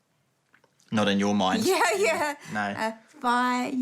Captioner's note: chuckles